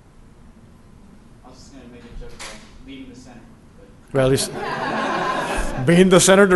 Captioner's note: laughter